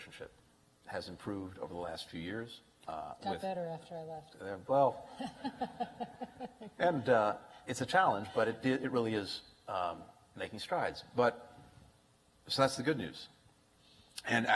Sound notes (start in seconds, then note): 5.1 laughter